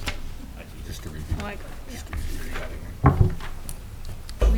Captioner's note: mumbling